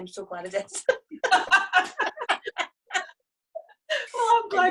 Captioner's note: both laugh